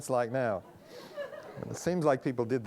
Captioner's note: audience laughing